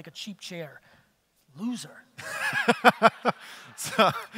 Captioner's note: audience laughter